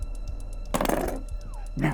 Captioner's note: knife clangs to the ground